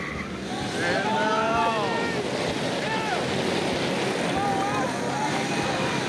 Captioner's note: shouting